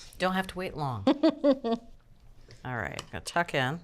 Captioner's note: giggles